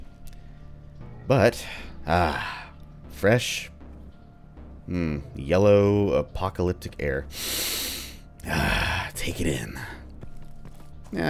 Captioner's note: inhales deeply